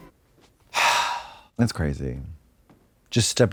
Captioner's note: Trixie sighs